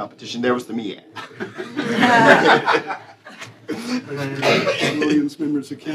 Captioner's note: laughter